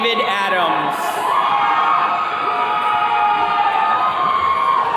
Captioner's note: attendees cheering